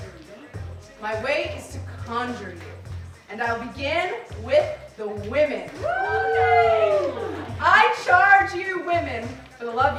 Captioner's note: female cast woos